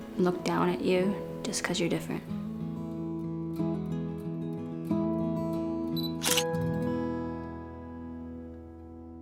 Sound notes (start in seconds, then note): 6.1 camera shutter sound